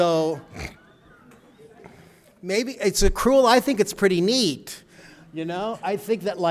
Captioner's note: laughter